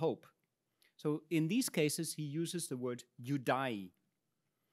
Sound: speaks in Latin

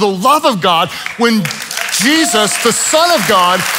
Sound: congregation applauds

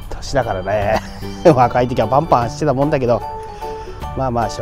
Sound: laughs

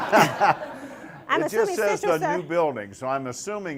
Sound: laughter

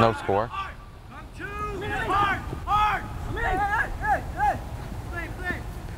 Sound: players talking and yelling

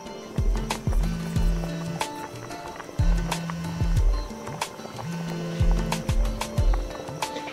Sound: phone vibrating

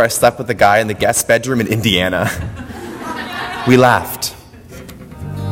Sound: audience laughter

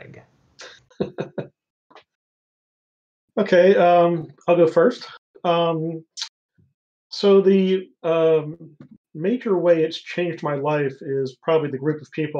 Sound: chuckles

